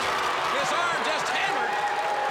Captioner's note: crowd cheering